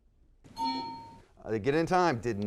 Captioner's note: buzzer sounds